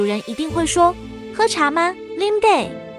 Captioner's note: Taiwanese